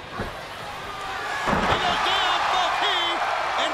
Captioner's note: crowd cheering